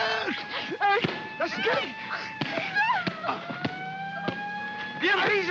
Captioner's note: Kowalski cries out; siren wailing in distance; sounds of punching; siren wailing